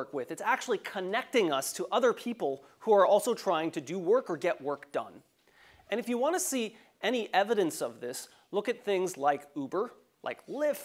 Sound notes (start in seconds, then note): none